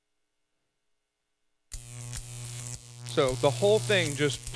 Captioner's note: electricity buzzing